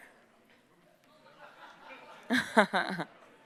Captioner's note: silence